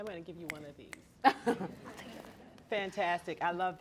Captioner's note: laughter